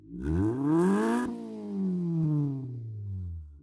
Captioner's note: engine revs